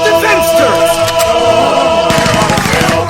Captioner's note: shocked gasps; sounds of heavy gunfire